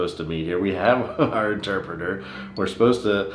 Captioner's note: laughs